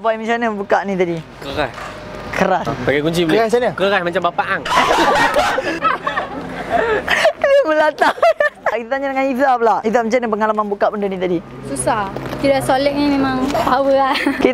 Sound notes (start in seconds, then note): 4.6 laughing